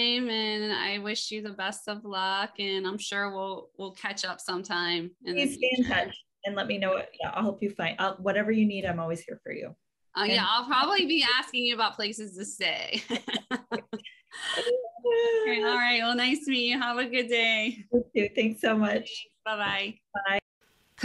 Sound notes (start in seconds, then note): 13.0 light laughter